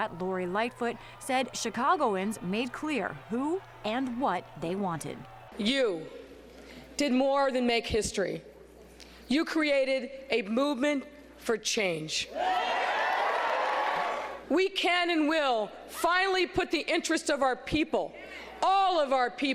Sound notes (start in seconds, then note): 12.9 applause